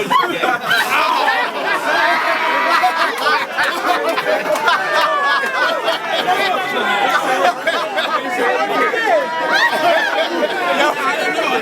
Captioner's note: crowd Reaction